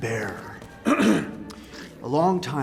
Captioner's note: clears throat